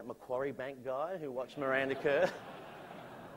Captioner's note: laughter